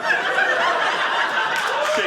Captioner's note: audience laughing